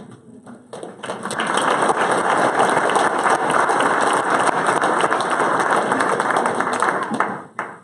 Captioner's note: applause